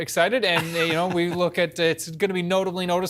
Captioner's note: laughter